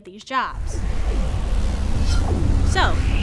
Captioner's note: electric buzzing